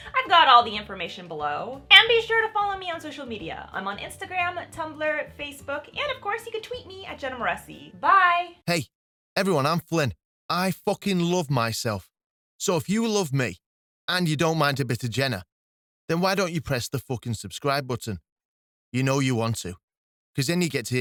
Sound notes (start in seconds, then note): 7.5 flippant Male Voice